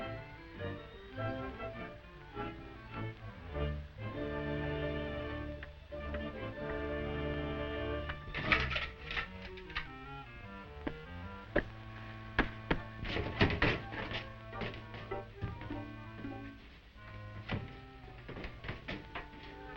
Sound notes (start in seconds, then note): 8.2 Volkites clattering; 11.4 footsteps thudding